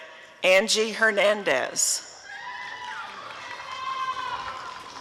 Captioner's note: applause and cheering